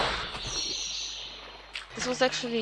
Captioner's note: sploosh